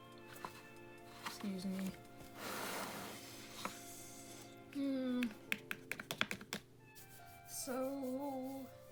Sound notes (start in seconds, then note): 5.4 tapping finger quickly